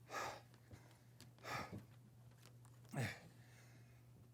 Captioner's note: heavy breathing